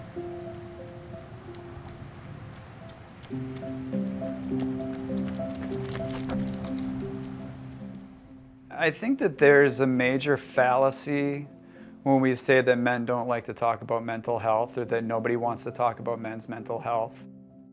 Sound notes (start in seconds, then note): 2.9 feet thumping